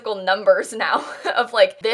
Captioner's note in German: kichern